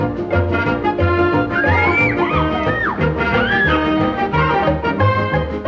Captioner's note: riders scream